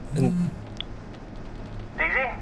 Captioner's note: click